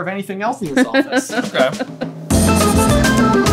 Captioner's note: laughs